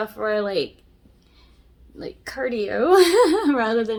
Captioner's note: laughs